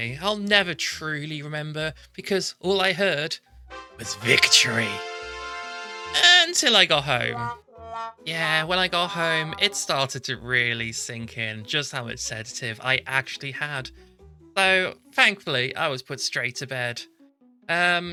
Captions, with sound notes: I'll never TRULY remember because, all I heard... ...was victory *Victory fanfare* Uuuuuntil I got home *sad trombone* Yeahhhh when I got home it started to really sink in just how much sedative I'd actually had. So thankfully, I was put straight to bed.